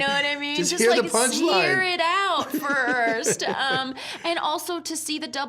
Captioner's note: both laughing